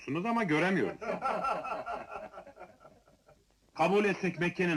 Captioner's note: people laughing